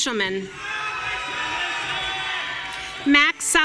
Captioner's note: audience cheering